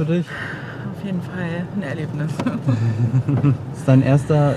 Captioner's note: laughter